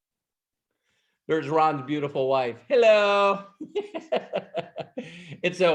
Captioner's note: laughs